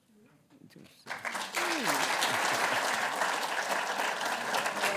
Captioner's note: applause